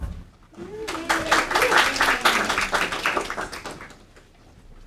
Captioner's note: audience applauding